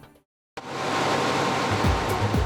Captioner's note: machines buzzing; upbeat music